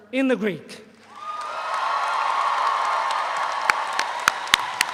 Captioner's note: audience applauds